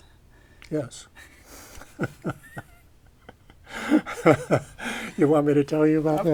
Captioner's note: laughter